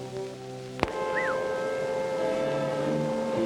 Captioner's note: man whistles